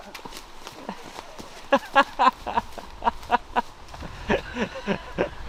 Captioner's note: Calvin laughs; laughter